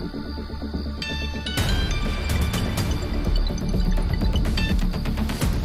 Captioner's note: Cell phone rings